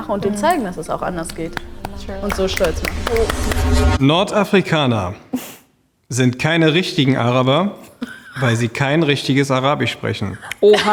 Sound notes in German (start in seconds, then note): 2.2 klatschen